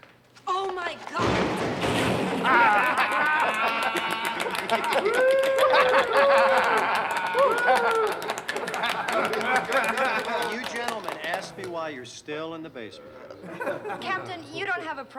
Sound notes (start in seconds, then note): 1.8 laughing; 3.6 clapping